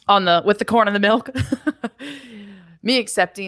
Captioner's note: laughs